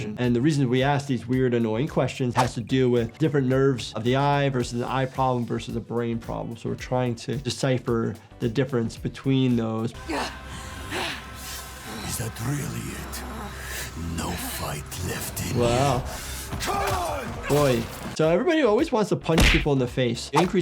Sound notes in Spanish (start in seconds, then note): 10.0 Senua jadeando; 16.7 Esclavista gruñendo